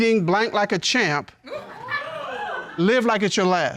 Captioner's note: audience laughing, hooting